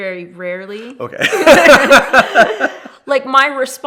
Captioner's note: both laughing